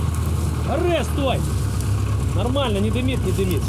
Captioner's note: speaking Russian